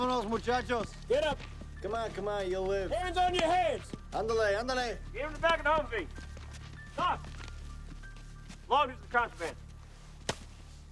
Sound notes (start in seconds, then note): 0.1 Henderson speaks in Spanish; 4.0 Henderson speaks Spanish